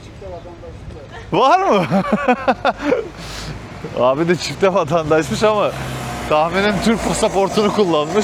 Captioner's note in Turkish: kahkaha